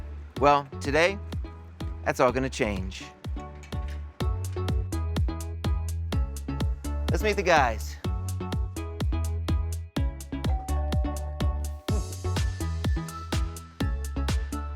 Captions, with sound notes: Well, today, that's all gonna change. (upbeat music) Let's meet the guys. (bell rings) (upbeat music)